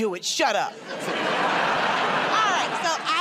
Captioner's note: laughter